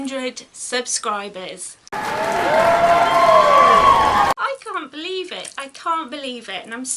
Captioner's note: cheering